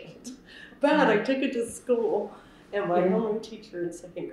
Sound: laughs

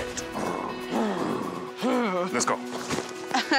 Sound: growling noises

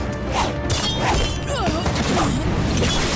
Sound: grunting

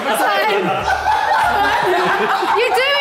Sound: all laughing

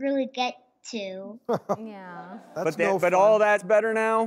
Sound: laughter

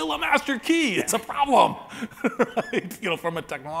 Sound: laughs

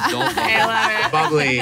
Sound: laughing

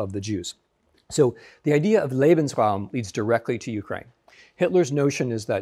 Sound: speaking German

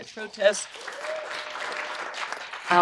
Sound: applause

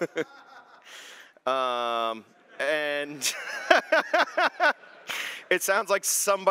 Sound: laughter

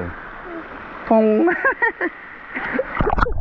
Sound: laughing

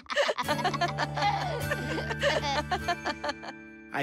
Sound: laughing

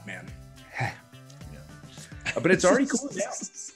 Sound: laugh

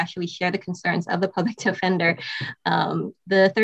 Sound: chuckles

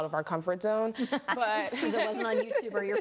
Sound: laughing

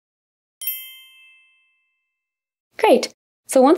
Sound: chime rings

